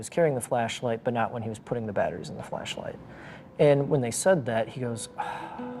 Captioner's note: sigh